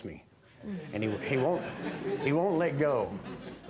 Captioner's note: audience laughs